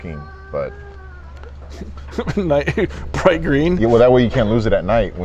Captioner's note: laughs